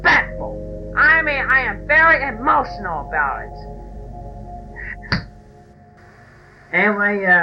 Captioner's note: sigh